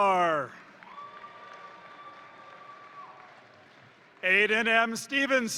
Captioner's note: crowd cheering; crowd applauding